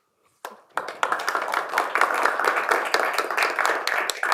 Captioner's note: applause